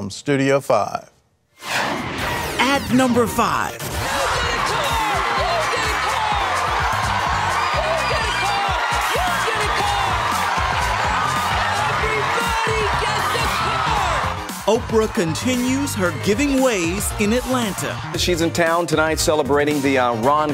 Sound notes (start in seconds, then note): 6.3 yelling; 6.3 cheering